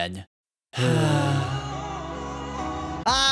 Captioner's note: both sigh